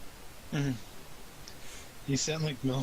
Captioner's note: chuckling